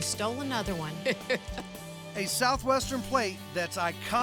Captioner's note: chuckling